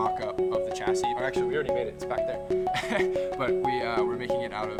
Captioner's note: laughing